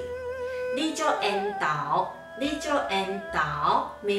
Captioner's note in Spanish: en taiwanes